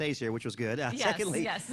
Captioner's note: laughter